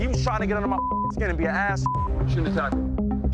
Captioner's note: beep